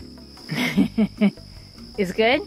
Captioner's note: woman laughs off camera